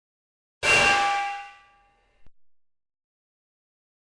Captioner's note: loud bang